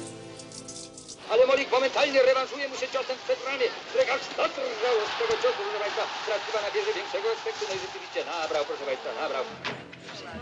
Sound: sports commentary on a radio

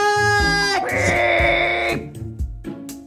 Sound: shouting; playful music

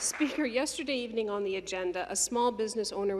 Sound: some Applause

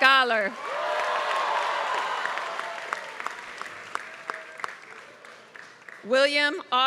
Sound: applause

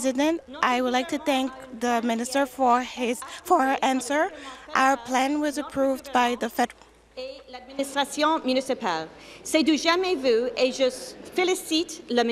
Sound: speaking French

